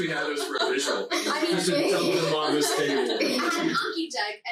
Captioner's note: laughing loudly; group chattering